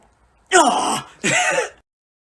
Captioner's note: laughs